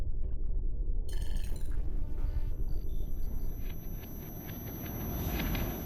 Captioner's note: digital beeping and whirring